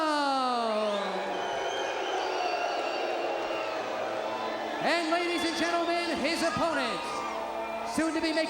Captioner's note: crowd cheering